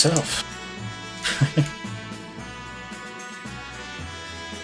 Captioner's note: chuckles